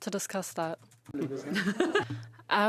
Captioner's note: speaking French